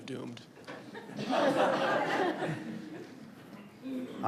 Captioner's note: audience laughs